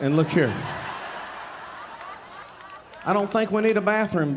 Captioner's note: audience laughing